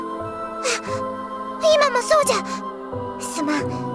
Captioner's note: gasp